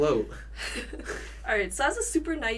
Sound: both chuckle

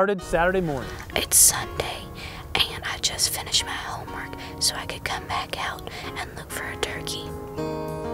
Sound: whispering

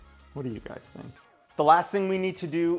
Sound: none

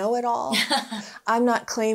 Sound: laughing

